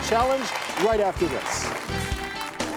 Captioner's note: crowd clapping